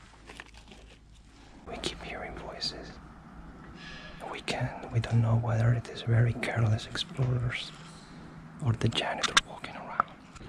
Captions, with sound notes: "(whispering) we keep hearing voices... we can't- we don't know whether it is very careless explorers or the janitor walking around..."